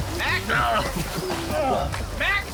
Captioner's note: groaning